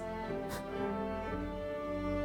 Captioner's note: scoffing